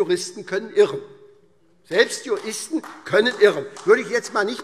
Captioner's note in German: Beifall